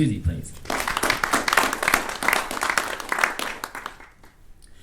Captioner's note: attendees clapping